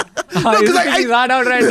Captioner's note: laughs